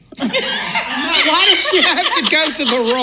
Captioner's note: laughing